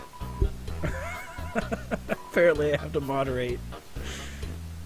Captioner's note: laughing